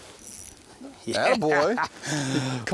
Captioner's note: fishing reel spinning